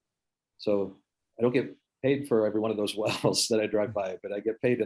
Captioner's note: chuckles